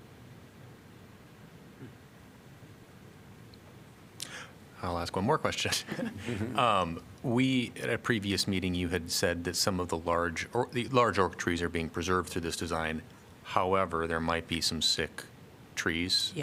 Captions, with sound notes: I'll ask one more question. [LAUGHTER] Um, we- at previous meeting, you had said that some of the large o- large oak trees are being preserved through this design. However, there might be some sick trees-